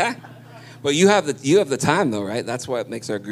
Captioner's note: laughter